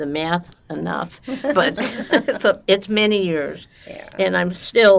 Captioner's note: laughing